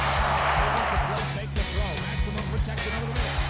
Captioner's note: crowd cheering; rock music